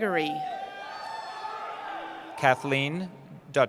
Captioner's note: cheering